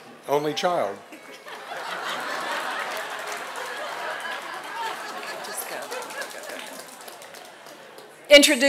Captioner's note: laughter and applause